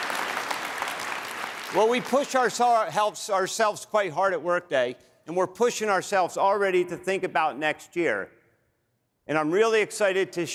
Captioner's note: applause